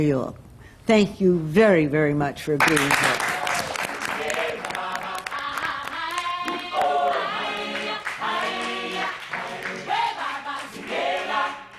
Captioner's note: applause